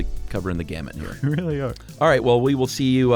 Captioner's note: laughs